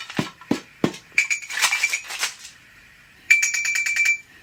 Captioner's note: soft clinking